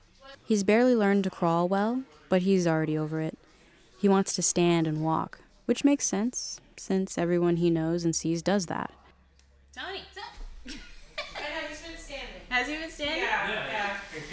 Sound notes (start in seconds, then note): 10.7 laughs